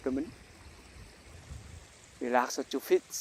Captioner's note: continuous sound of stream/ running water in the background